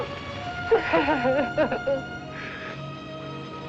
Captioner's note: sobbing